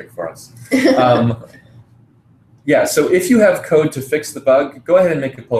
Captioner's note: laugh